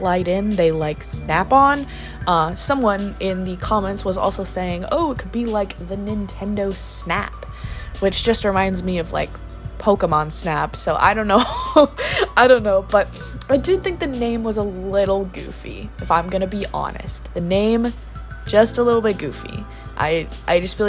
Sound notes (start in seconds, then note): 11.4 laughs